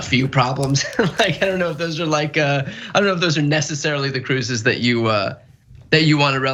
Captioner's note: laugh